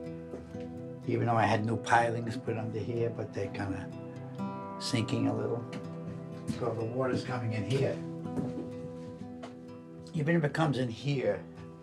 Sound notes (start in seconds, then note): none